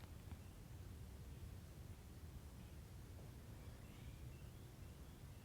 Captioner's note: cardinals chirping